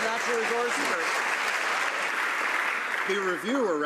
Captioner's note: some Applause